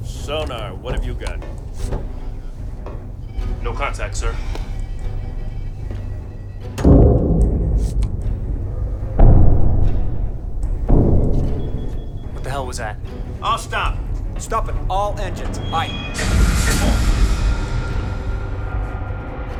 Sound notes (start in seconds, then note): 6.7 bang; 9.9 bang bang